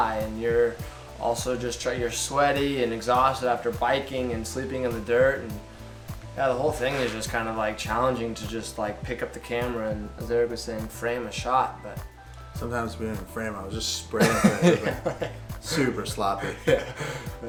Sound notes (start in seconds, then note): 14.2 laughs